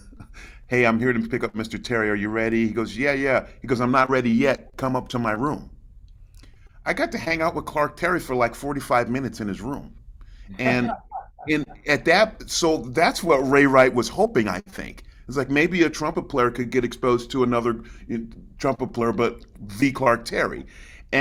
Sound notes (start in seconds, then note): 0.0 chuckles; 10.6 laughs